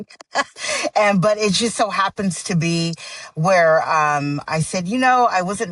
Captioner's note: chuckles